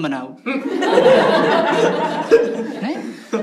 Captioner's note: laughs